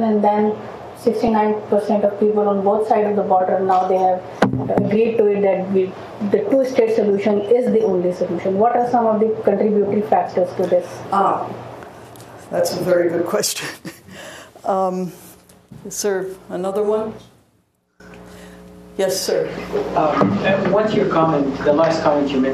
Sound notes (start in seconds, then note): 13.6 laughs